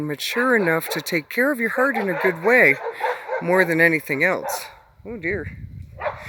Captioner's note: dogs Barking